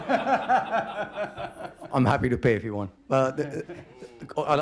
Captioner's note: laughter